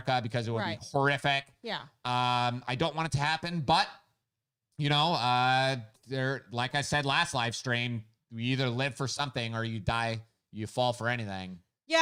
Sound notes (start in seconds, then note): none